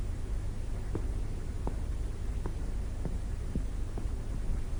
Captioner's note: footsteps